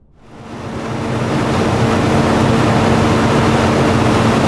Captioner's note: tow truck winch whirring